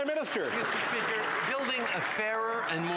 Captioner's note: some Applause